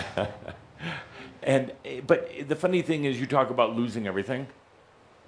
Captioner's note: Adamus chuckles